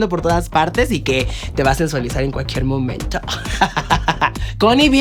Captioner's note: evil laugh